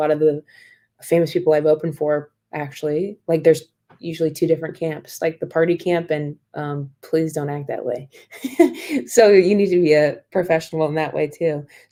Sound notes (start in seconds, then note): 8.2 laughter